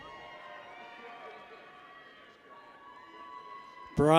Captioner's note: people cheer